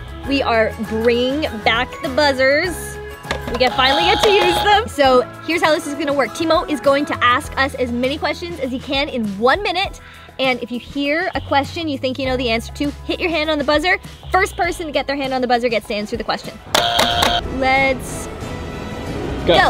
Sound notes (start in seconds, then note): 3.6 buzzes; 16.7 buzzes three times